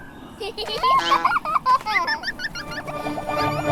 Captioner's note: giggling; bin chicken honks